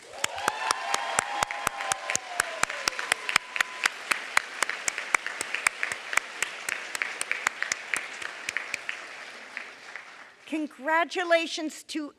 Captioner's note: applause